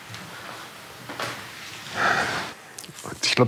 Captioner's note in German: Schweres Atmen